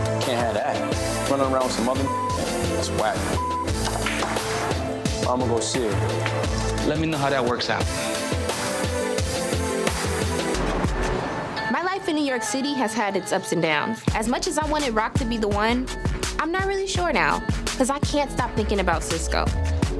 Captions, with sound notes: Can't have that. She's running around with some other (beep), that's whack (beep). I'm gonna see her. - Let me know how that works out. (upbeat music) - My life in New York City has had its ups and downs. As much as I wanted Rock to be the one, I'm not really sure now. 'Cause I can't stop thinking about Cisco.